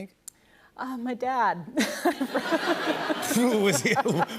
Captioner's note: laughter